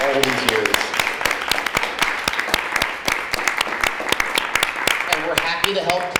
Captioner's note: applause